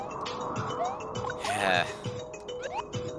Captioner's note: sigh